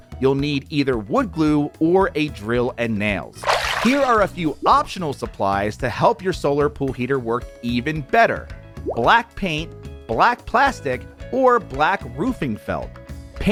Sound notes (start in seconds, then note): 3.4 water splashing